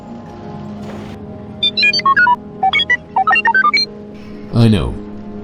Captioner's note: worried beeps